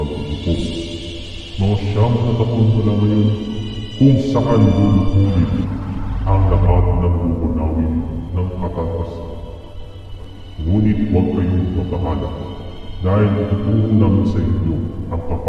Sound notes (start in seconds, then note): 8.7 murmur